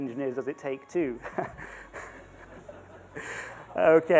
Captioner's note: laughter